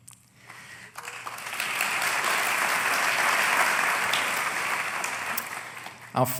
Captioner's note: applause